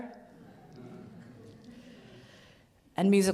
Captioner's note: audience laughs